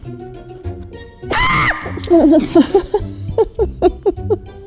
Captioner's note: screams; laughing